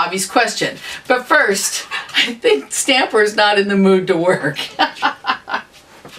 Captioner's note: laughter